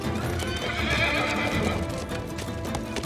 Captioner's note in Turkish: At kişniyor